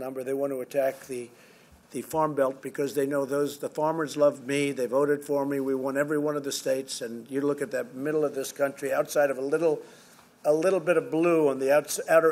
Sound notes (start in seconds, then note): none